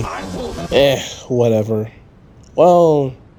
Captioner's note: groan